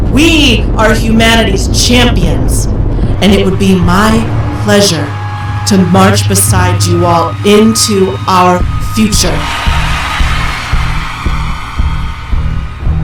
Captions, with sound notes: We are humanity's champions, and it would be my pleasure to march beside you all into our future. (crowd cheers louder)